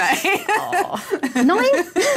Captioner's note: laughter